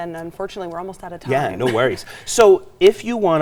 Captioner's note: laughs